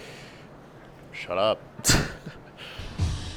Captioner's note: chuckles